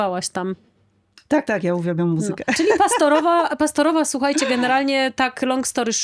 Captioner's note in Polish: śmiech